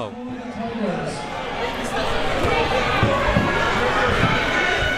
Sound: crowd members shouting

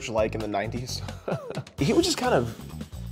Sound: man chuckles

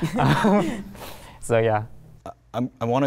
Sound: laughs

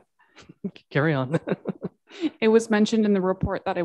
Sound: mayor chuckles

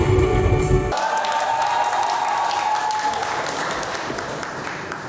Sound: applause

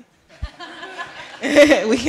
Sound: laughter

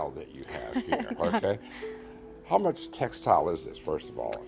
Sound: laughs

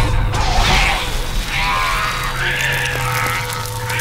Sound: gagging

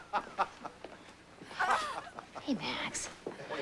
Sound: jerry laughing

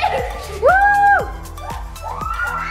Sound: cheers; screams

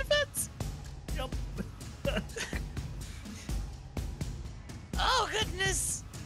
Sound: laugh

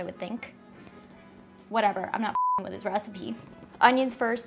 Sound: beep

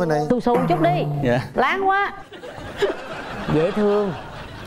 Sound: laughing

